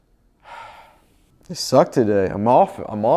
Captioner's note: sighs